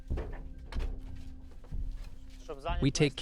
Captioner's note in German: Schritte